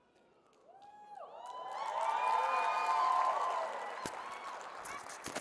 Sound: audience cheering

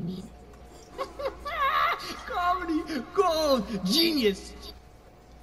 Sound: chuckles

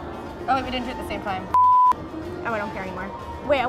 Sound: beep

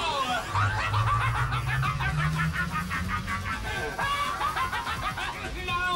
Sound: Mysterio laughs

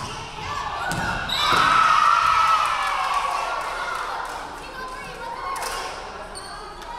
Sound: crowd cheering; referee whistling

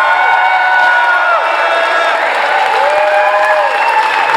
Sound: applause and cheering from the crowd

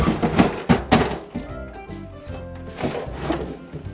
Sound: cabinet opening

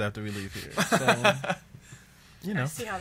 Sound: laughs

